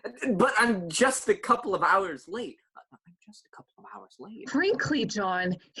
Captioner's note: quietly